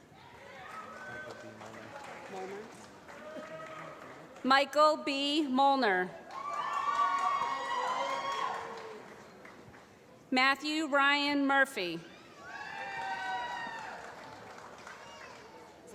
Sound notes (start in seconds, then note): 0.5 applause; 6.2 applause; 12.8 applause